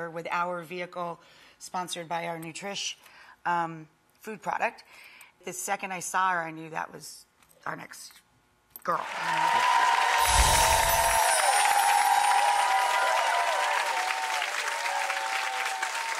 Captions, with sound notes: with our vehicle sponsored by our Nutrish food product. The second I saw her, I knew that was our next girl. (audience clapping)